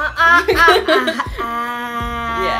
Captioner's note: laughs